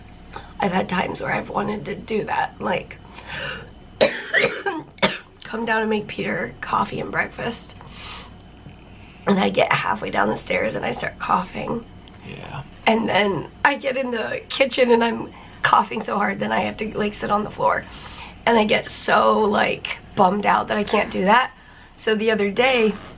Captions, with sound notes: I've had times where I've wanted to do that, like... [coughing] Come down and make Peter coffee and breakfast. And I get halfway down the stairs and I start coughing. Yeah. And then I get in the kitchen and I'm coughing so hard that I have to like, sit on the floor. And I get so like, bummed out that I can't do that. So the other day...